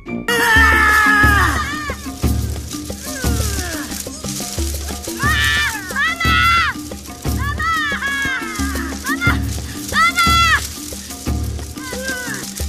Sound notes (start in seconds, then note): 0.3 yelling; 2.9 grunts, yells; 7.3 wails; 11.8 whimpers